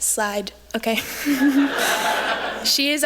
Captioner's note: laughter